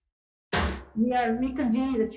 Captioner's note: gavel bangs